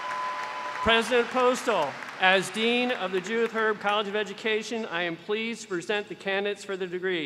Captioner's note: cheers and applause